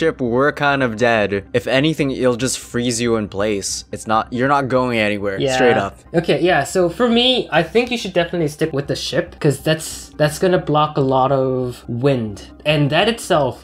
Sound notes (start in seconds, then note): none